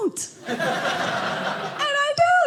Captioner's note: audience laughing